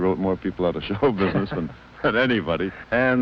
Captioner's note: laugh